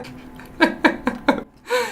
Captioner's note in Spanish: risas